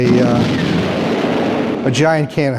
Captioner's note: explosion